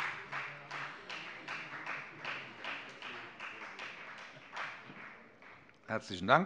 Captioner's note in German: Beifall bei der FDP